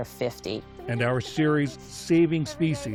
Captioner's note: voice-over